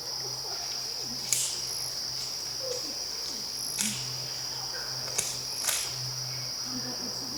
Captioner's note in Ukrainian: знову чутно хрускіт гілок